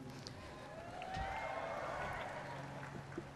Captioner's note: cheers